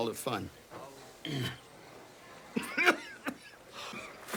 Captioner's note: coughing